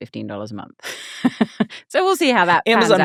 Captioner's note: laughing